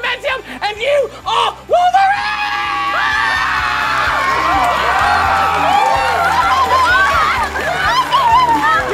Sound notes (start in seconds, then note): 2.1 screams; 4.7 cheering